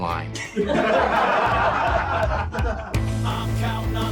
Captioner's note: laughter